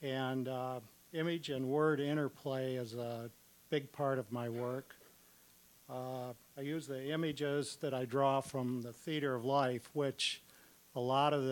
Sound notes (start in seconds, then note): none